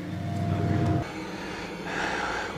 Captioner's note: breathing heavily